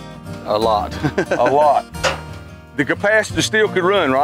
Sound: laughs

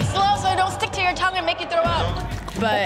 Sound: gagging

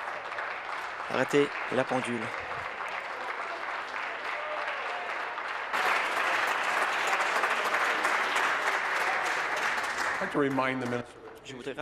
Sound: applause

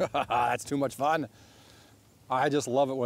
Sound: laughs

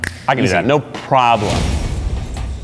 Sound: snapping

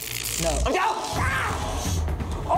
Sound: screams

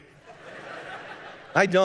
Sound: congregation laughing

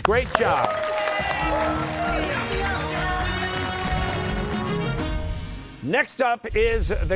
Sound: cheers and applause

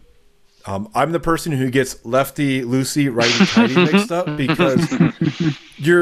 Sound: laughter

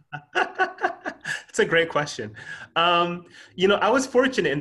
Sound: laughs

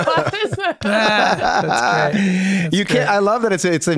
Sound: all laughing

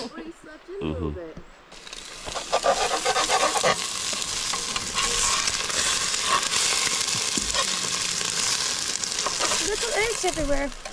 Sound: sizzling

